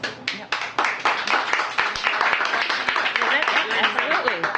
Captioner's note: applause